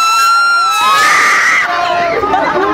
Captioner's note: all the screams at once